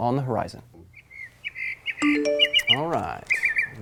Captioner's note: bird chirping